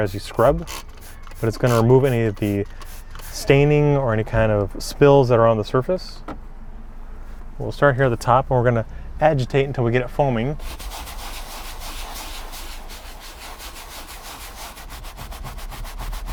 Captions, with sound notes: as you scrub, but it's gonna remove any of the staining or any kind of spills that are on the surface. We'll start here at the top and we're going to agitate until we get it foaming. (brush swishing)